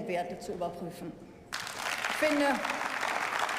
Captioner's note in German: Beifall